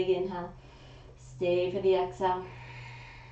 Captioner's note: exhaling; inhaling